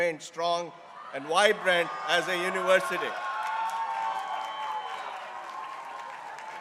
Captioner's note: crowd cheering